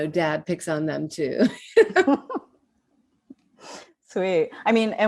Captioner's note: laugh